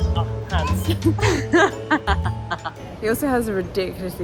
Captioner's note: laughter